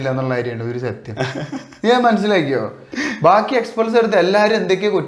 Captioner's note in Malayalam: പൊട്ടിച്ചിരി